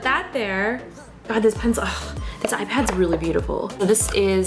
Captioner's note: sighs